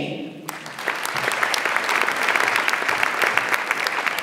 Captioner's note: audience applauds